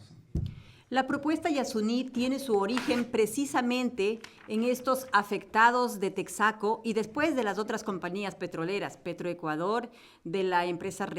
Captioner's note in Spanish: Español